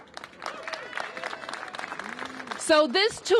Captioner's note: applause